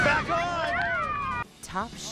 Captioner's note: shouting